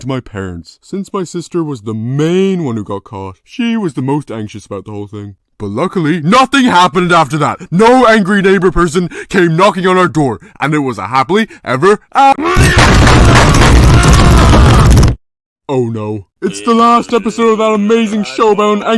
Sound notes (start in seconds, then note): 12.5 banging on door aggressively